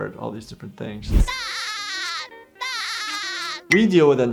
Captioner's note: SpongeBob laughing